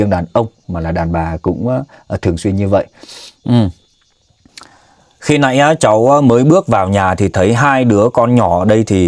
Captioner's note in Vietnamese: khịt mũi